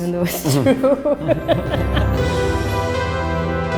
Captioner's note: laughs